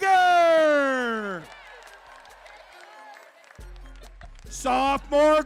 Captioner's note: crowd cheering